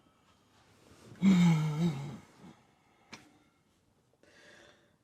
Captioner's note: Betsy sighs